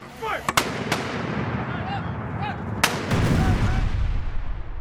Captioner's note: gunfire rattling; soldiers yelling